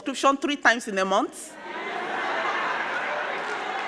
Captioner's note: crowd laughing; crowd clapping